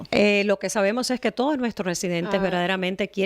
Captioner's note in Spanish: Hablando ingl\s